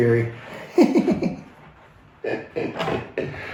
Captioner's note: laughs